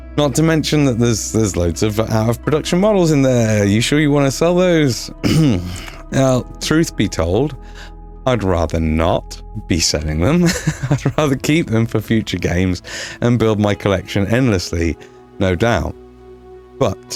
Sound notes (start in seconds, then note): 5.2 clears Throat; 6.9 chuckles; 10.4 nervous laughter